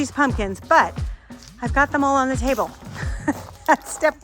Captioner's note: laughs